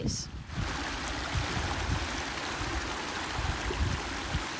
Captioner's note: water sloshing